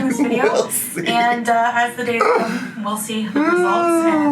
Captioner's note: laughs